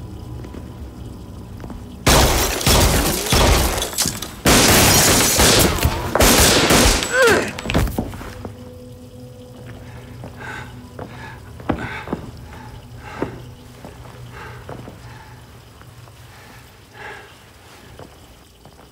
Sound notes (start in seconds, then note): 2.0 gunshots booming; 4.8 glass shattering; 6.9 groaning; 9.4 water facet running; 11.7 gasping